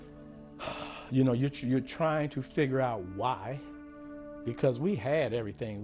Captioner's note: exhales